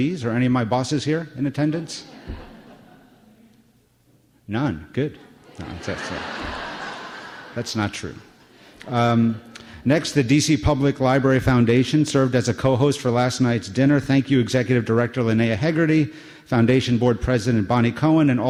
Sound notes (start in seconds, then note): 5.2 laughter